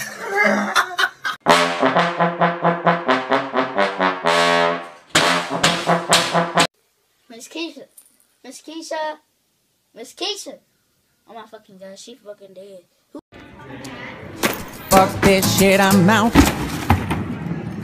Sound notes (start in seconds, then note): 0.0 background voice laughing; 5.1 bangs oven door to the beat